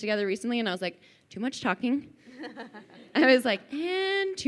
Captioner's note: laughing